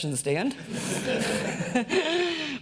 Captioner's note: audience laughs